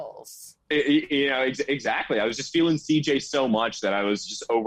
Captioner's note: group laughing